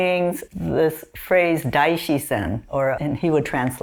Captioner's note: speaks foreign language